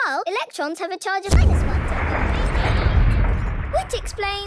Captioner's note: distant explosion